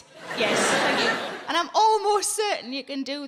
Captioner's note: audience laughing